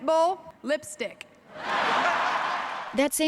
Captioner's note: laughter